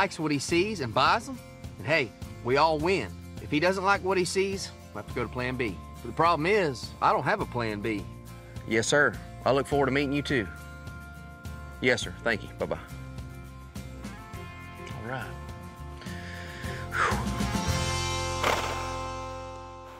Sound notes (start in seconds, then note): 16.0 exhales; 17.7 horse nickers